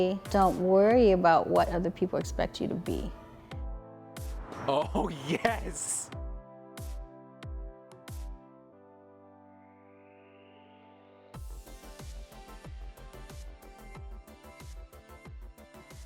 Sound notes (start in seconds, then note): 4.8 male Voice; 6.0 calm music